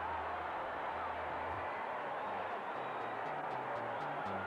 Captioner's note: crowd cheering